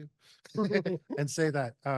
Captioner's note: laughter